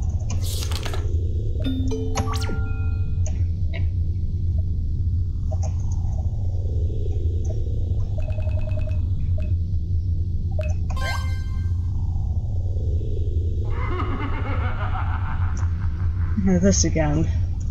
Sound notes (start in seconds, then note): 13.6 evil laughter